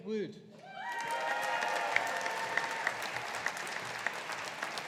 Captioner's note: audience applauding